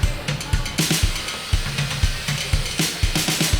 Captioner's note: buzzsaw whirring